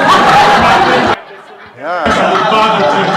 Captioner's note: laughter